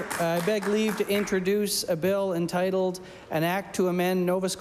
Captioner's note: applause